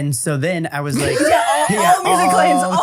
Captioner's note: everybody laughs